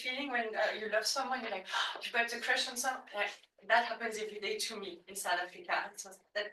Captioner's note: gasp